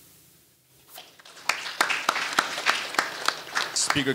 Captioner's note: audience applauding